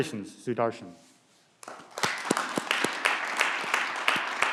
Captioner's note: clapping